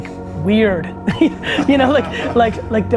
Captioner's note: group laughter